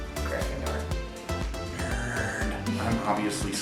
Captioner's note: whisper